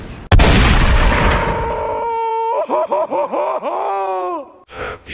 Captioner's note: gunshot; Patrick Screams In Pain